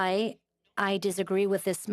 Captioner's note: speaking French